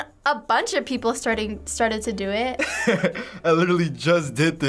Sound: laughs

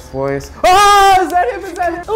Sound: yelling

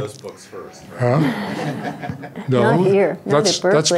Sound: laughs

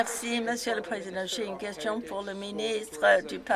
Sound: some Applause

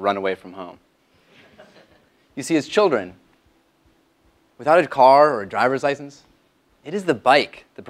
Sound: laugh

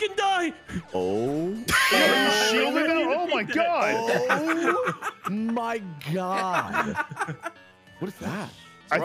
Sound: laughs

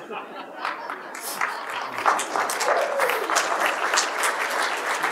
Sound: applause

